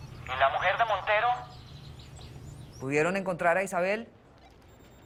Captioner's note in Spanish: none